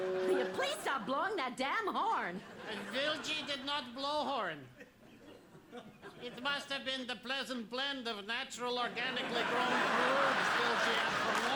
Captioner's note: horn sounds